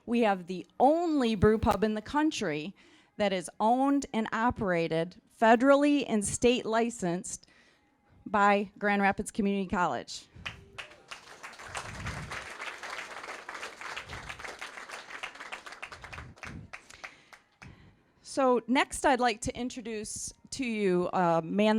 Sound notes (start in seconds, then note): 10.4 applause